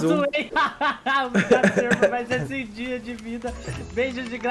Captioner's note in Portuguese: risos